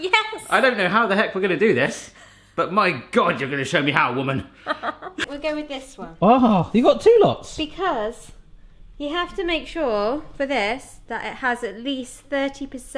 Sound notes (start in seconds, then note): 4.6 laughs